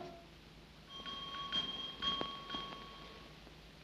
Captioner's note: doorbell rings